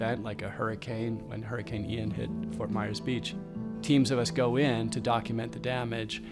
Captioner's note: none